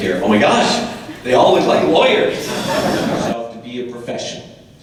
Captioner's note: audience laughter